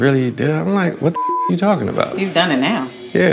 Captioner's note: beep